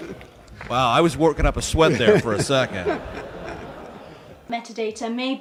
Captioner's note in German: Gelächter